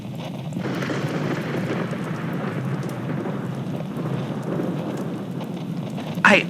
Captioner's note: thunder crack fx